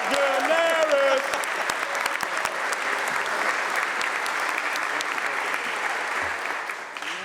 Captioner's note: applause